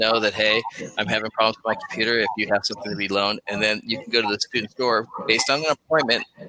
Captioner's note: technical glitch